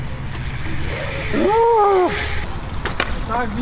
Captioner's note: joy noises